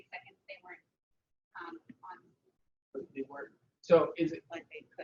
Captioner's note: audio drops